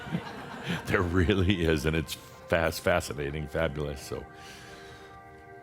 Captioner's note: some chuckles